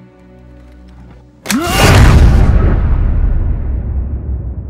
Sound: epic snap

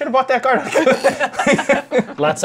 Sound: laughter

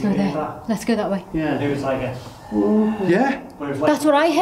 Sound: exhaling

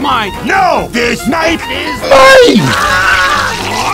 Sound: earrape

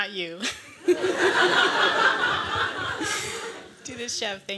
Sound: laughing

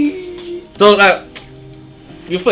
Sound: tsk

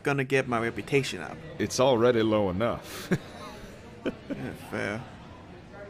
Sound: laughs

